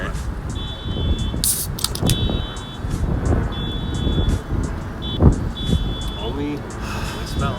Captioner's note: cans cracking and car horn beeping